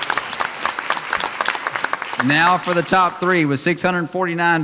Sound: audience applauds

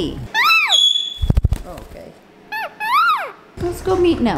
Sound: Nelly squawks

